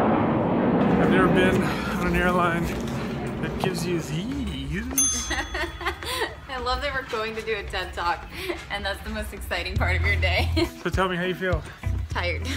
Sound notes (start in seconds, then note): 4.9 ding; 5.1 laughter